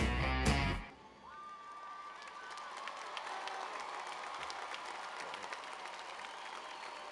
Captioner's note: cheers and applause